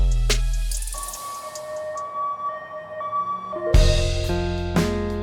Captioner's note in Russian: сирена скорой помощи